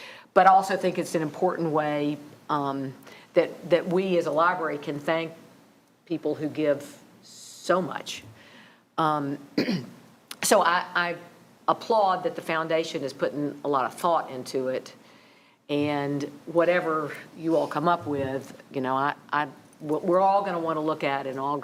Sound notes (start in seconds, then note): 9.6 clears throat